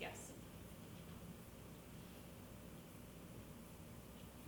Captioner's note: woman whispering